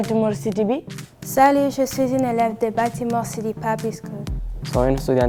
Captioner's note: speaking in a foreign language